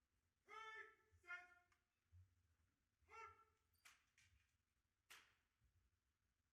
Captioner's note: officer calling out commands